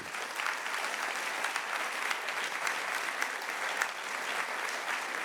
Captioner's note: audience clapping